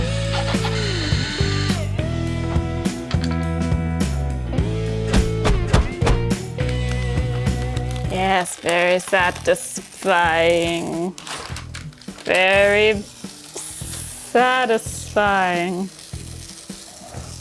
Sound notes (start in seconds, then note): 0.1 funky music continues; 0.2 drill whirring; 7.3 adhesive tearing; 14.8 adhesive tearing